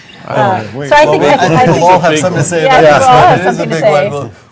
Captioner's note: all chattering